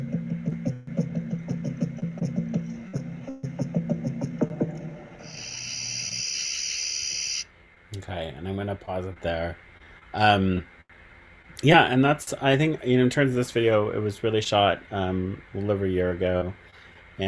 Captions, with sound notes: (crickets chirping) Okay, I think I'm going to pause it there. Yeah, and that's, I think, you know, in terms of this video, it was really shot a little over a year ago,